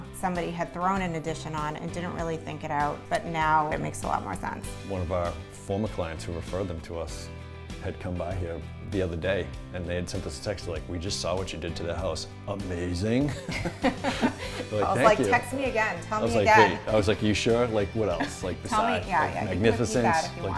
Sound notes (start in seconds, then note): 13.3 laughing